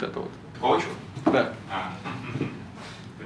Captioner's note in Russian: смех